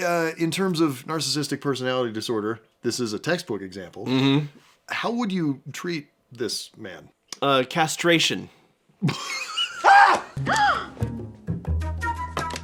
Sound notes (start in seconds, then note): 9.8 scream; 10.5 gasp